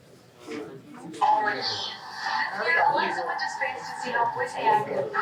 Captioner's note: indistinct chatter